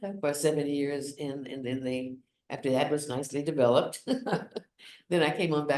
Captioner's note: chuckles